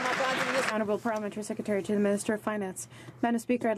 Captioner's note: some Applause